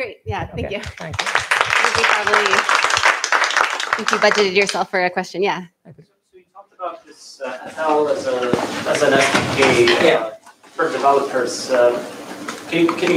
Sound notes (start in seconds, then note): 0.7 applause